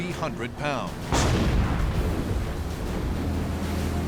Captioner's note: explosions